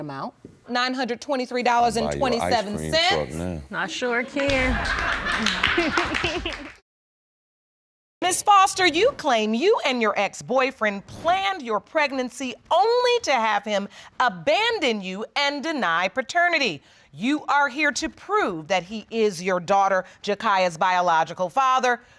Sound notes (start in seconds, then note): 3.9 audience laughing; 5.2 laughs